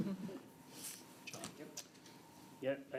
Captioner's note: laughter